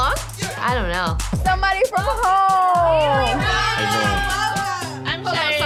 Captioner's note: group cheering